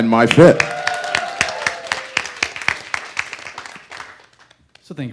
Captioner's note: audience cheering and applause